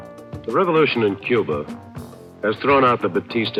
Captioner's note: archival news audio